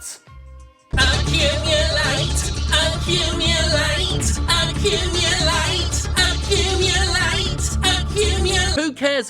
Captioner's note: electronic voice